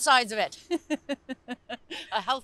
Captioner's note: chuckles